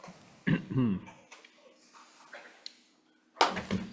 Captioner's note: clears throat